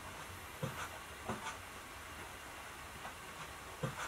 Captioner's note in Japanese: 足音; 足音